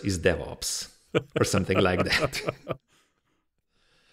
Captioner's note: laughs